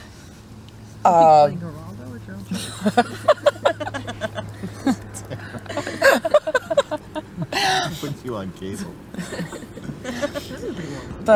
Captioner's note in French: rires